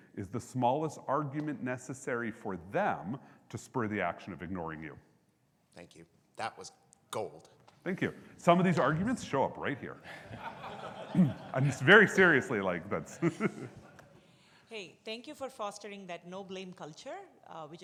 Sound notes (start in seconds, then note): 10.0 audience laughs; 14.0 laughs